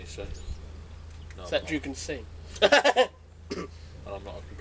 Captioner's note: laughs